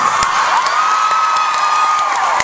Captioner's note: audience cheering